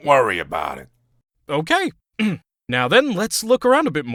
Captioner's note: clears throat